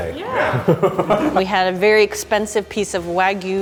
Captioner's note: laughing